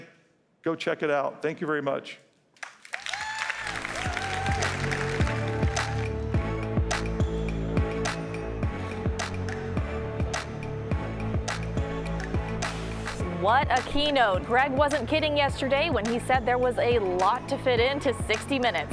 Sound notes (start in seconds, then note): 9.9 applause